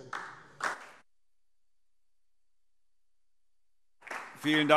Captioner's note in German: Beifall DIE LINKE